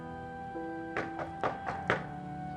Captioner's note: knocking on door